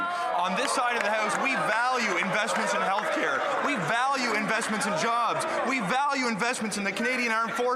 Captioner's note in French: voix de l'interprète